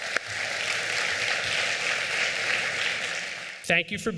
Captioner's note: applause